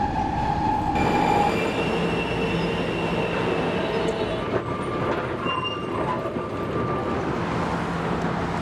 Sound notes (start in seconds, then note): 0.0 subway creaking